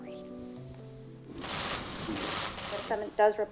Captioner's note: cameras clicking